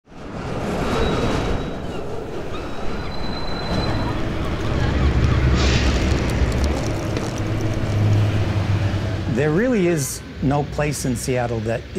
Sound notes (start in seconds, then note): 0.0 train rumbling, wheels screeching; 2.5 traffic noise